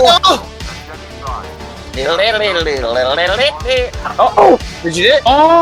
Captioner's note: groans